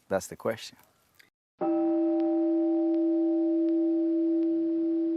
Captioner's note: meditation chime